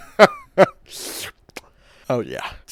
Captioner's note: sinister laughter; grossly licks lips